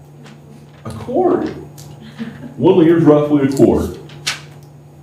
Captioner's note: laughter